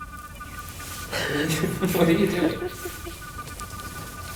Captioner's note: laughing